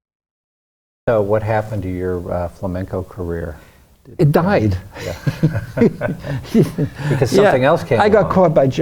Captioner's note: laughs